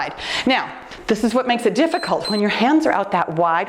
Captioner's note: timer beeps